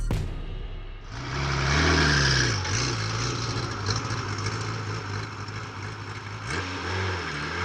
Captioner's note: hip hop music; engine roars